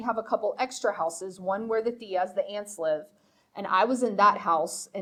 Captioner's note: speaking foreign language